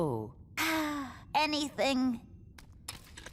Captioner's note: sighs